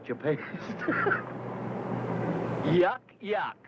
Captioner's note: laughs